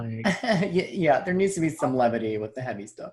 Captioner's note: laughs